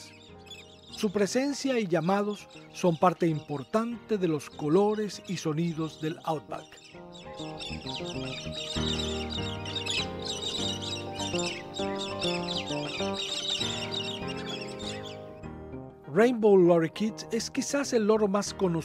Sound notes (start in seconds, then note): 7.2 rhythmic music; 11.5 Galah calls